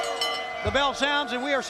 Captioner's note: bell ringing